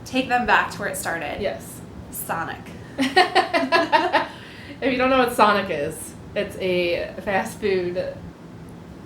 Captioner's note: laughter